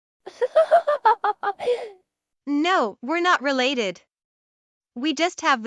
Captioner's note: laughing